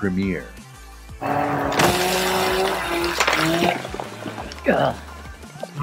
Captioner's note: chainsaw whirring